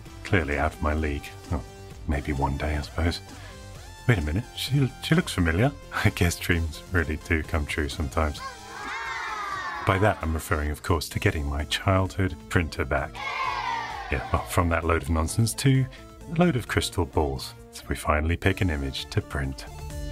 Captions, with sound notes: Clearly out of my league. Well maybe one day, I suppose. Wait a minute. She looks familiar. I guess dreams really to come true sometimes. (children saying wow) By that I'm referring of course, to getting my childhood printer back. (children booing) - Yeah, from that load of nonsense to a load of crystal balls. So we finally pick an image to print.